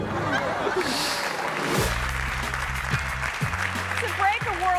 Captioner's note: audience laughing and clapping